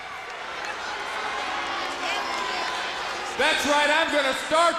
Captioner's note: crowd cheering